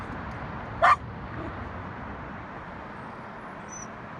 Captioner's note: Annabella barks